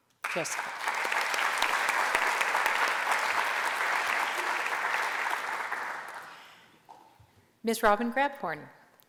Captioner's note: applause